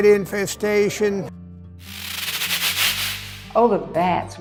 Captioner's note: bat Growls